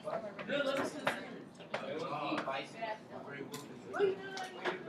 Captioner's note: classroom chatter